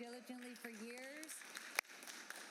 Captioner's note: applause